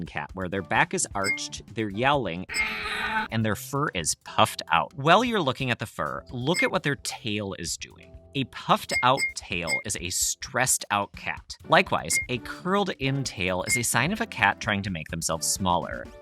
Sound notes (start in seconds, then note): 2.5 cat yowl